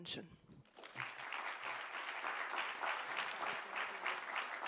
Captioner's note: applause